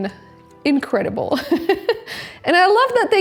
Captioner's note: chuckles